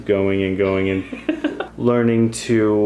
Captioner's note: laughing